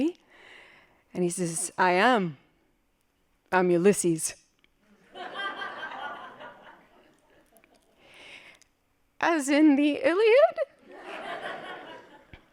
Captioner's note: laughing